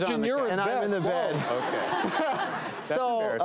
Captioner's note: audience laughs